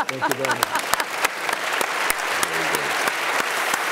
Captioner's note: applause